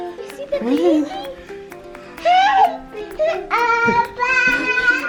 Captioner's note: children babbling